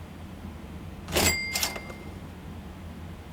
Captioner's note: chu-ching